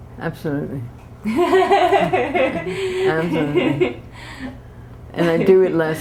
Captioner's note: laughter